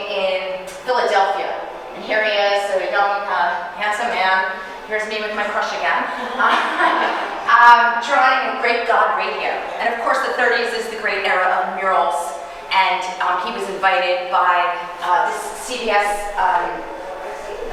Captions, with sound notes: in Philadelphia. And here he is, a young handsome man, here's me with my crush again. (audience chuckling) Drawing the great god of radio. And of course the thirties is the great era of murals. And he was invited by this CBS radio tower.